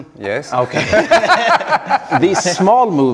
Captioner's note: both laughing